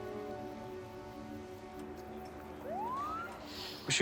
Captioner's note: siren wails